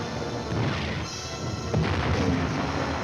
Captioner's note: tank fire